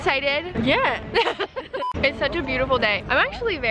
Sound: laughing

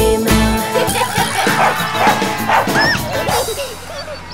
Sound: puppy barking; puppy giggling; birds tweeting

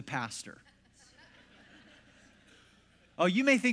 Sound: congregation laughs

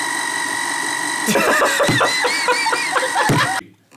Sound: more laughter

